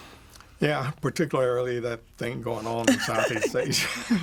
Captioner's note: laughter